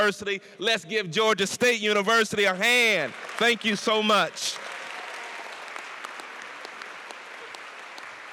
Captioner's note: applause and cheers